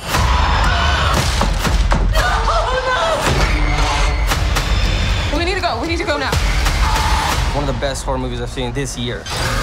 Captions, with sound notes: [Screaming] [Screaming] TESS We need to go. We need to go now. AUDIENCE MEMBER One of the best horror movies I've seen this year.